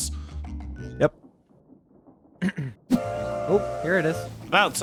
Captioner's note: clears throat